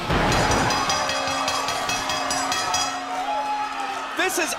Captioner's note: crowd cheering; bell ringing